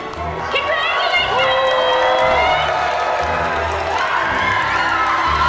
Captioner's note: applause